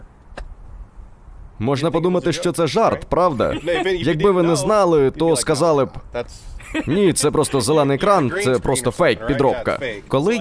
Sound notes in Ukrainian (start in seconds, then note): 6.6 сміх